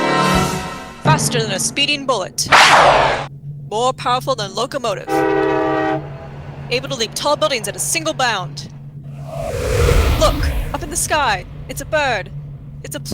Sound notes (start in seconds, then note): 2.5 gunshot, with ricochet; 4.8 train whistle blows, locomotive rumbles; 9.1 loud rush of air